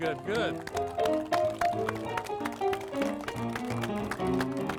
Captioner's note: audience applauds